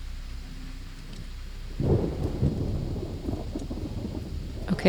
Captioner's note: thunderstorm continues